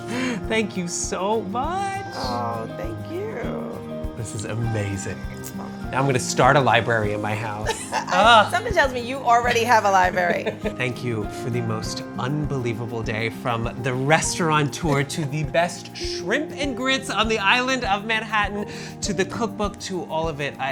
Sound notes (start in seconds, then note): 0.0 laughs; 7.5 laughs